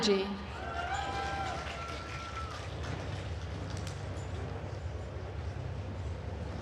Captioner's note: attendees cheering and applauding